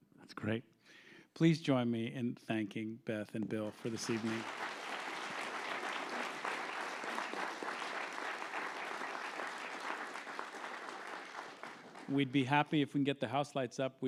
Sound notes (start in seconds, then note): 5.4 applause